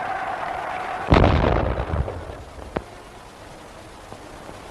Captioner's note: cannon fires